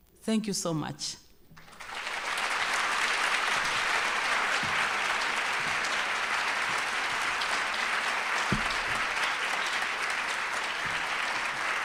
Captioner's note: applause